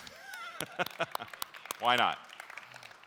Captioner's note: applauding